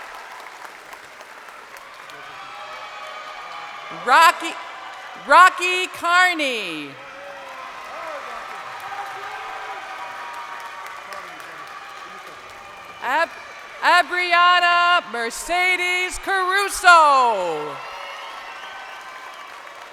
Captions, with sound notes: (crowd cheering) Rockie Carney. (crowd cheering) Abriana Mercedes Caruso.